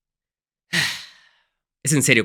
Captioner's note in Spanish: suspiro